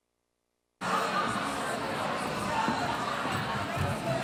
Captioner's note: audience talking